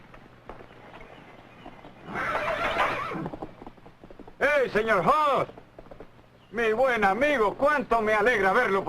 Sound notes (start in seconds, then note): 2.0 horse whinnying